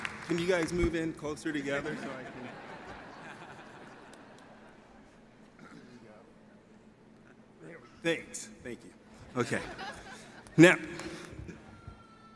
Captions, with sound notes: Can you guys move in closer together so I can ... (audience laughs) Thanks. Thank you. Now.